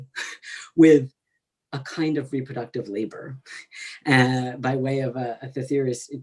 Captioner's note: laughs; laughs